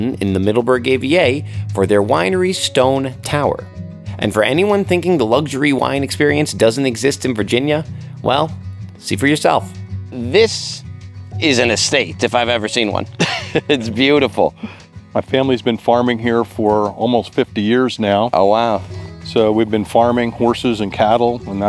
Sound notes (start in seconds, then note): 13.1 laughs